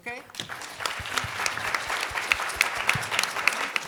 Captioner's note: clapping